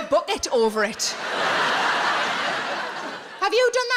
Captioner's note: audience laughs